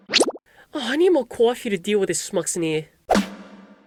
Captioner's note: in NYC accent